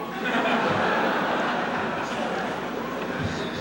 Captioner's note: laughter